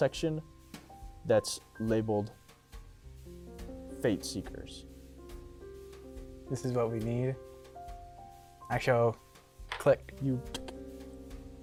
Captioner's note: computer turns on